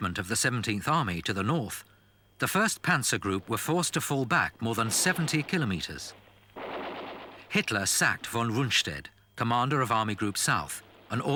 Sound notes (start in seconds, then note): 6.6 guns firing